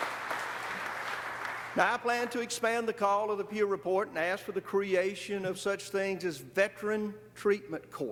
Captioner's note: applause